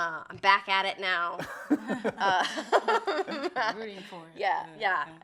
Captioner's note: group laughs